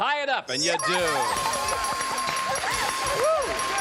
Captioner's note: dinging